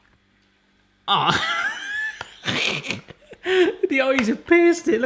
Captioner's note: laughs